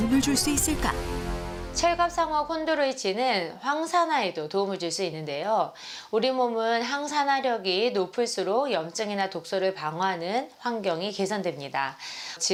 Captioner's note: voiceover